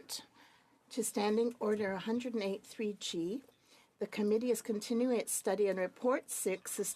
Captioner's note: speaking French